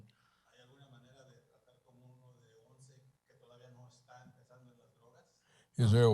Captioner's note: Spanish language